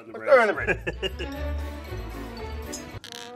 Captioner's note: laughs